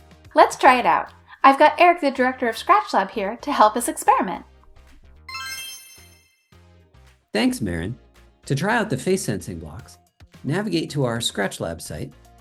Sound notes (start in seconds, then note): 5.2 magical Spell Sound